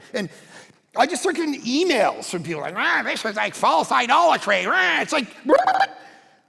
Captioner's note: pastor murmuring